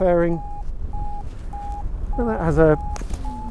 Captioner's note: Vario beeps